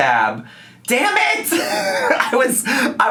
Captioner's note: laughs